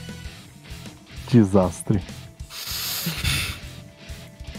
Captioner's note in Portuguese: suspiro